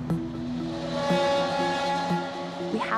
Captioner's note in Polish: dźwięk mijanego pociągu